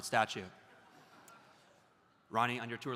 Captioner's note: audience laughs